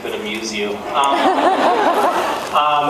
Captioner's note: laughs